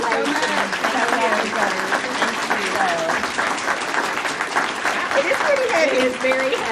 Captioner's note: audience applauding